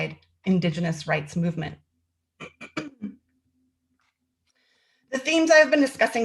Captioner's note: clears throat